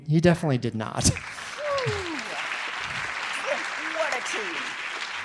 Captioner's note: audience applauding